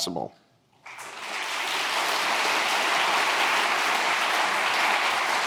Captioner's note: audience applauding